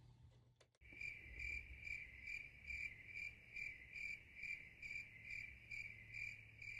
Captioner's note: crickets chirp